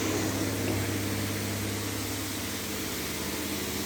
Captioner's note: spraying